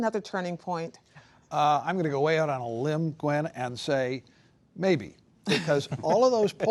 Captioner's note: laughter